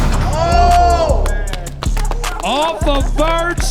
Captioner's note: cheering and clapping